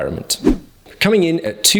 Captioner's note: air whooshes